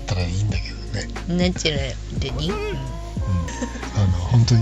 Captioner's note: laughs